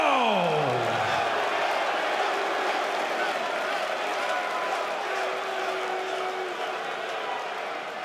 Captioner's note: fans chanting